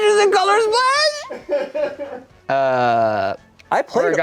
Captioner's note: laughs